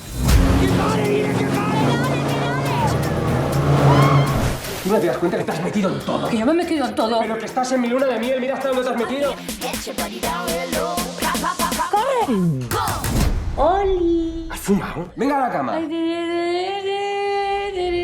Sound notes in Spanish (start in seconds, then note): 3.8 grita; 12.5 traga saliva; 17.1 tararea